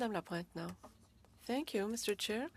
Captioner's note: speaking French